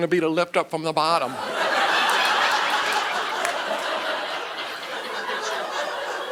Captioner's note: audience laughing